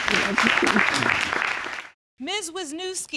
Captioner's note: audience applauding